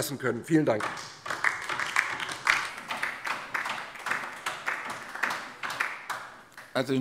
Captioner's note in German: Beifall DIE LINKE